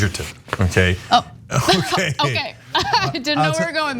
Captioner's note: laugh